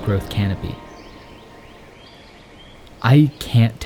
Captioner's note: birds chirping